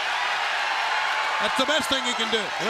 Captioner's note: crowd cheering